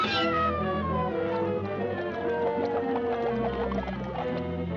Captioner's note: water bubbling